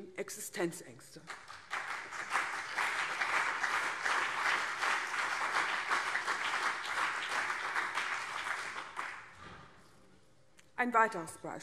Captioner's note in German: Beifall CDU und BÜNDNIS 90/DIE GRÜNEN